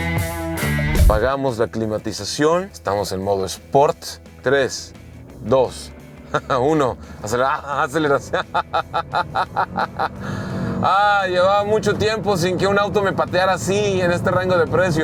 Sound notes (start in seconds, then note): 4.0 laughter